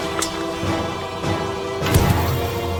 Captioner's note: dramatic music; blade clinks